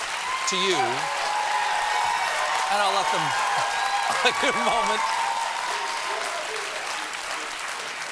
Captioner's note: cheers and applause